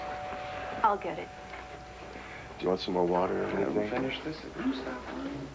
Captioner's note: doorbell rings